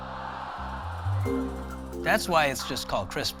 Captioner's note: crowd groans